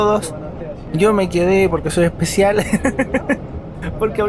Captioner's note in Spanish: risas